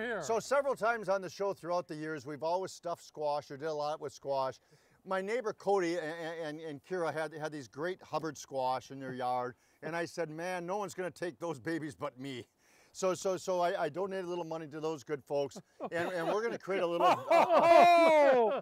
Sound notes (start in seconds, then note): 5.0 stuttering; 12.2 stuttering; 15.5 laughing